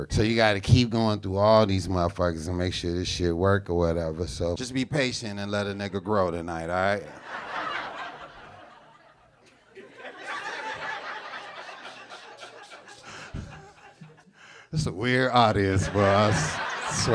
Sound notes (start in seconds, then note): 7.1 audience laughing; 14.7 chuckling